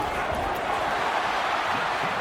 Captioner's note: crowd Noises